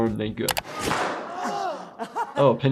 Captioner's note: all groan